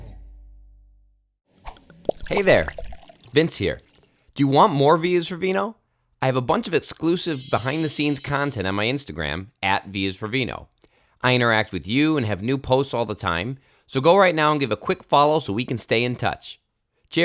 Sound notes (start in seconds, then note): 1.6 air swooshing; 1.6 cork popping